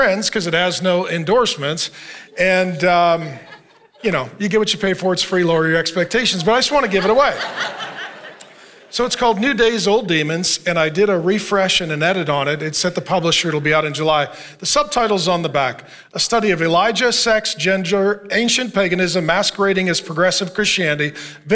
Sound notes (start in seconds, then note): 7.7 congregation laughing